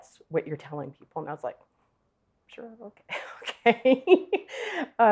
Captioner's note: chuckles